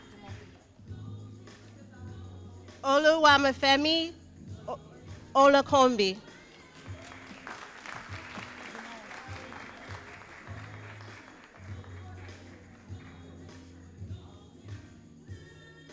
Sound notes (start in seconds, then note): 6.3 all applauding